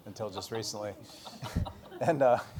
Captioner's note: laughter